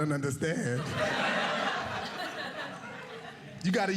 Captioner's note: audience laughing